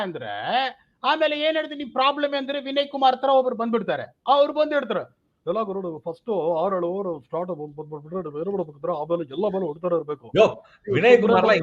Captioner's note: Mimics like Vinay Kumar